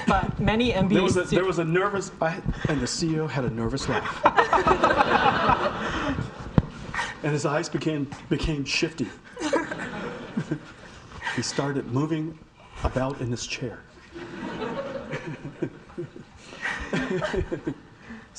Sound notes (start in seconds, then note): 3.9 audience laughing; 14.1 audience laughing